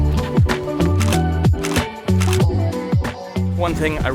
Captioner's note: shutter clicks